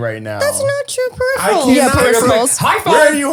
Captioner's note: all clamoring